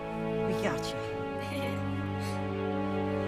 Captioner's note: laughs